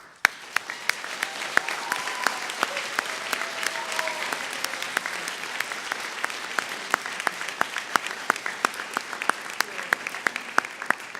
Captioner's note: applause